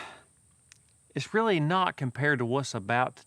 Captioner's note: sighs